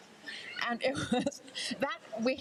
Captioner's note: laughs